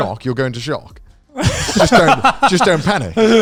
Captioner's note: laughing